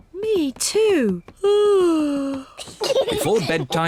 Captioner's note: yawns